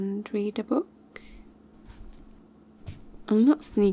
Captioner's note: slow steps backward